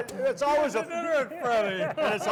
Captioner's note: laughs